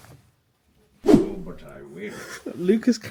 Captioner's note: panel swishes